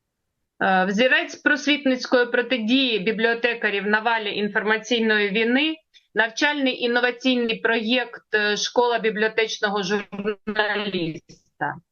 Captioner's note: foreign language